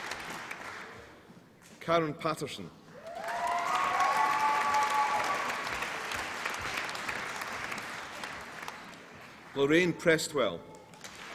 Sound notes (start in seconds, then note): 2.9 applause and cheering